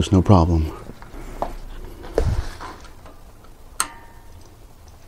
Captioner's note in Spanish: Sonido de destornillador golpear metal